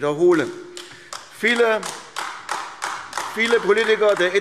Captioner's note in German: Beifall AfD